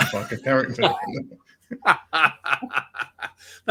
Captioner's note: laughter